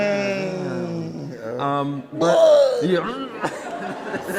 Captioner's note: Peppermint gagging